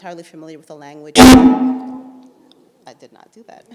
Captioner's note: microphone squelches